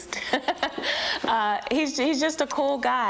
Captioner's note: laughs